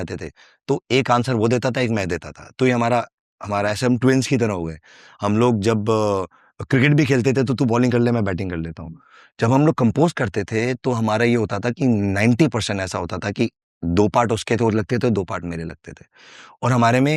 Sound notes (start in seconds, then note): 3.4 non-english speech